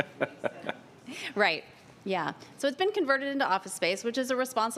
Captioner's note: laughter